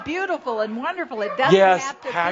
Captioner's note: more laughter